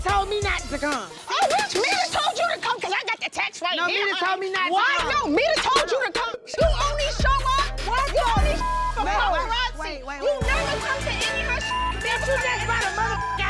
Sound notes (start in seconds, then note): 8.3 people shouting indistinct; 8.3 tense hip-hop music; 11.7 dramatic hip-hop music